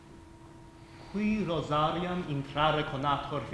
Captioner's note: speaking latin